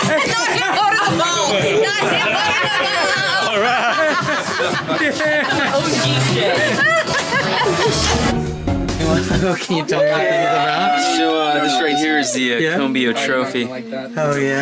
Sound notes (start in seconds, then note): 2.7 laughing; 6.0 laughing